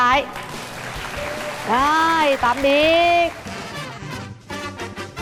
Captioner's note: applause